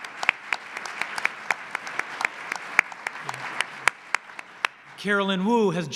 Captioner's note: applause